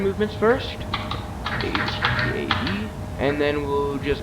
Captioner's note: typing on keyboard